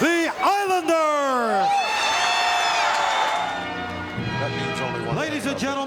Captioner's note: audience cheering